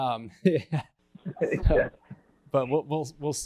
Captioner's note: laughs